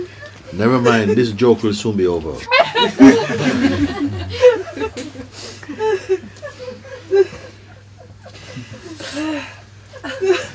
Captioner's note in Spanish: risas